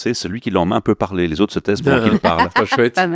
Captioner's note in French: Rires